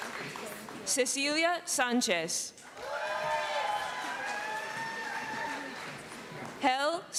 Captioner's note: cheering; cheering and applause